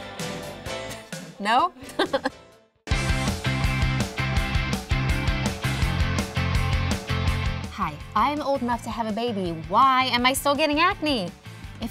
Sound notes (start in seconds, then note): 1.8 laughing; 3.1 upbeat music